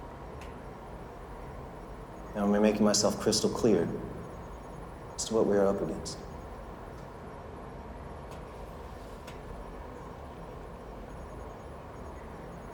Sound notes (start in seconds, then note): none